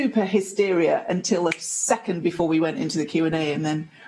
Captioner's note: snap